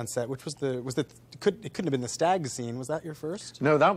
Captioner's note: stammering